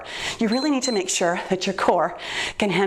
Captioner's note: timer beeps